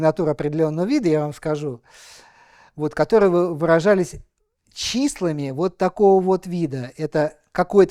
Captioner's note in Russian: тяжело вздыхает